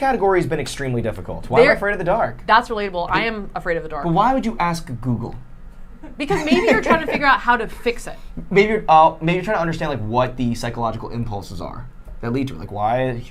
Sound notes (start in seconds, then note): 6.1 laughing